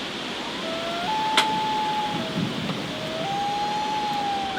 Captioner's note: bird howling